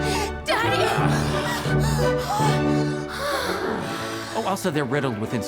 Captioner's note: moans